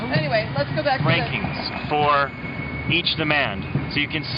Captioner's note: voiceover